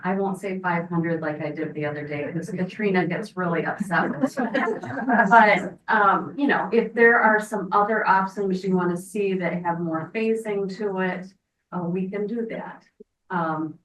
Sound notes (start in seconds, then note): 3.6 members laughing; 3.8 speaks faintly